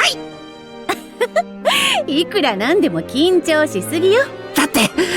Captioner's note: giggle